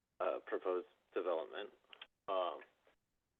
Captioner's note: by phone